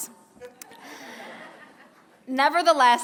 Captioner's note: laughter